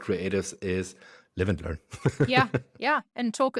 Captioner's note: laughs